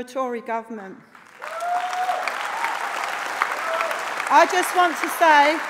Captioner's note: applause